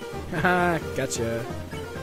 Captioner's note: laughing